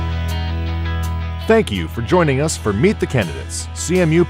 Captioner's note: voiceover